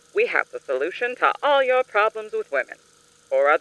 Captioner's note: none